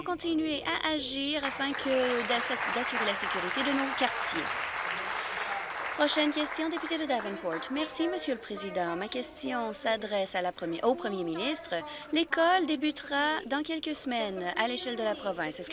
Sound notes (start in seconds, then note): 4.1 applause